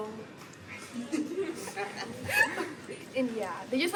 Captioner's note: both laughing